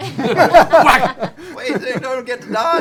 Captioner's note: laughter; whack sound